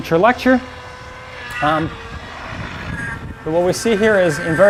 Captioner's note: machine whining